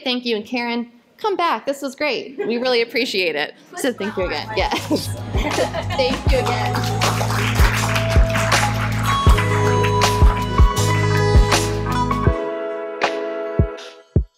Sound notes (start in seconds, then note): 5.5 applause; 9.2 closing music